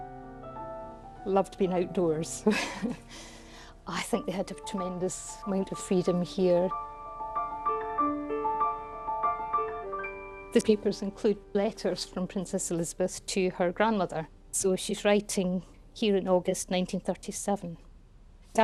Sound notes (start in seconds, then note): 2.4 laughs; 7.4 light music